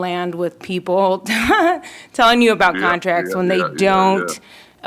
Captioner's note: laughter